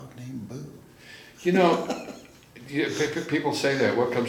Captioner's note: laughs